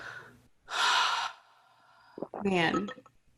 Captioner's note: sighs